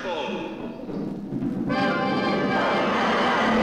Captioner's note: thunder claps; suspenseful orchestral music; monster roars